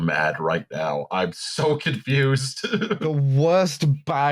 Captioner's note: laughs